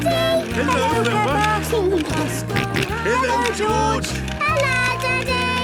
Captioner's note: George giggling and snorting